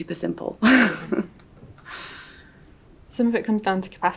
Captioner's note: laughs